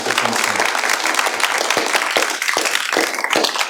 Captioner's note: applause